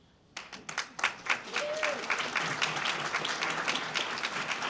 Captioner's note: audience Applauds